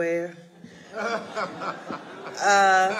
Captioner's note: audience laughing